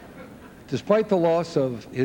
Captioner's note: laughter